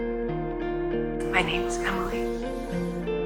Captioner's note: voiceover